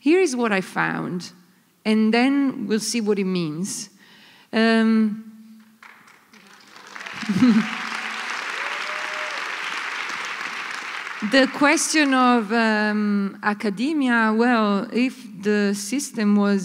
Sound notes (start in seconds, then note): 5.7 applause